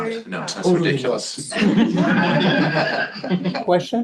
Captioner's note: laughter